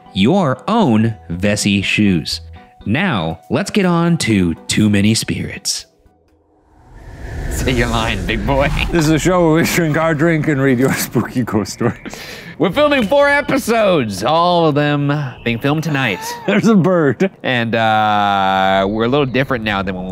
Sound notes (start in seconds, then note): 6.4 wind whistling; 12.3 laughs